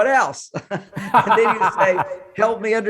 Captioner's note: both laughing